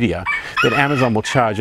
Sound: rooster crowing

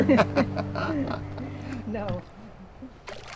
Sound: laughter

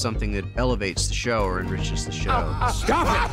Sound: laughter

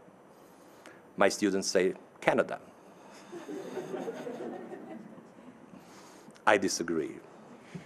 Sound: audience laughing

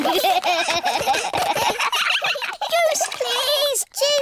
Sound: all giggling

